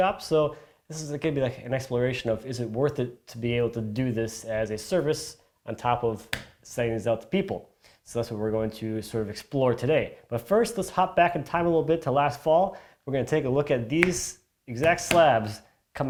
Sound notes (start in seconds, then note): none